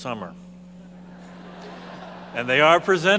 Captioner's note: audience laughing